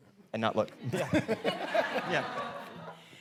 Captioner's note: all laughing